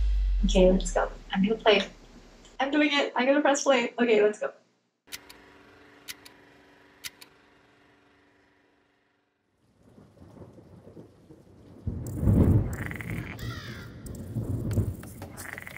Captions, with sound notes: Okay, let's just go. I'm gonna play it. I'm doing it. I'm gonna press play. Okay, let's go. ( thunder ) ( animals chittering, squawking )